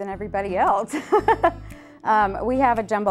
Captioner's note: laughs